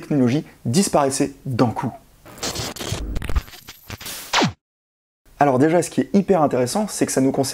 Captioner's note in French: Disparition de l’écran dans un bruit d’extinction